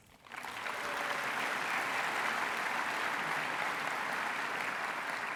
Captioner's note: applause